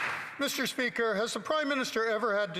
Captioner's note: applause